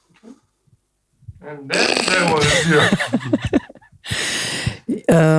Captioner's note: chuckles